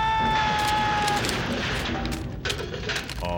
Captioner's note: clattering